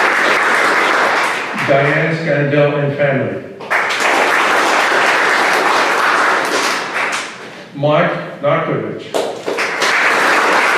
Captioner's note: applause